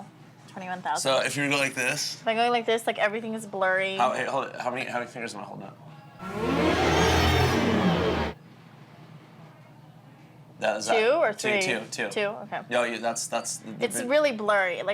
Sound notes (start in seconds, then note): 6.2 dramatic disorienting music; 12.6 stammers